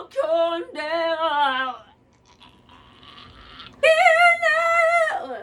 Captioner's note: barfing noise